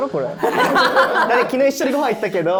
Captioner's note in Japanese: 一同・スタッフ：笑い